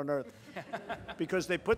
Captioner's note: laughter